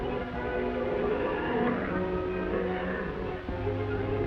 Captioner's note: tiger growls